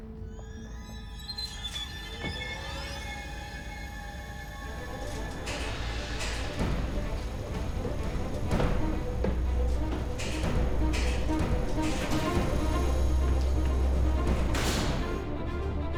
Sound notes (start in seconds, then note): 1.3 elevator whirring; 1.3 loud eerie music; 6.7 tense dramatic music; 14.9 door thuds